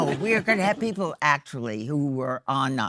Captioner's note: audience laughing